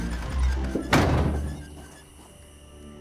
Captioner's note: door slams